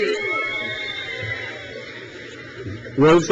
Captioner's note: crowd cheers